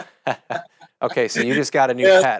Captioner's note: chuckles